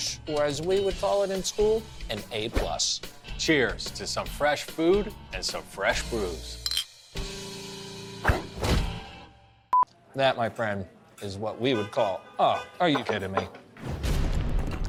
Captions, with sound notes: or as we would call it in school, an A+. - Cheers to some fresh food and some fresh brews. (glasses clink) (upbeat rock music) - That, my friend, is what we would call- (car horn honks) Oh, are you kidding me?